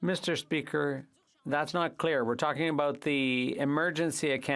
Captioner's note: speaking French